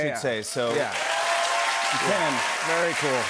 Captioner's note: cheers and applause